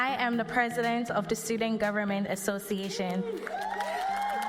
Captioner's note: cheers and applause